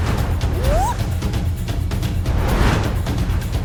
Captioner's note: Akari whooping